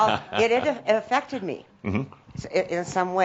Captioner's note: Adamus chuckles